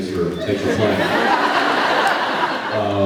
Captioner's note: laughs